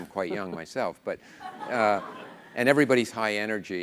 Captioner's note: laughter